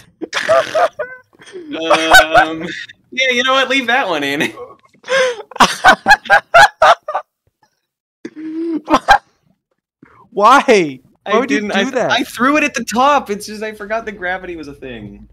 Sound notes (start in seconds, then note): 0.2 high-pitched skedgy laugh; 0.2 high-pitched skedgy laugh continues; 0.2 more high-pitched skedgy laugh; 5.2 inhales and laughs even louder; 8.7 one more skedgy laugh for the road